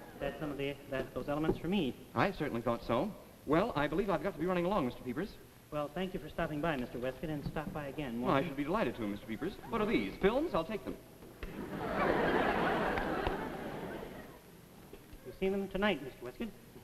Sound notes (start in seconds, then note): 11.5 audience laughs